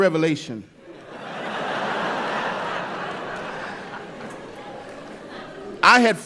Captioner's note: laughter